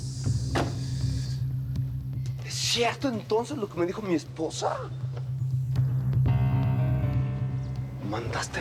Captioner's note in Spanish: portazo